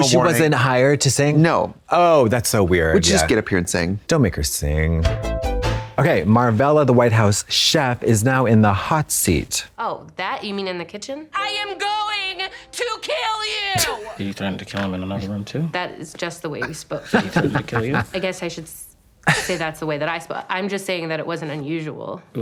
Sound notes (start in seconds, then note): 5.1 synth bop; 13.8 Katya snickers and snorts